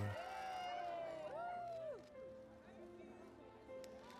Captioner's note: people cheering